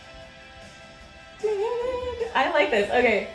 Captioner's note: hums along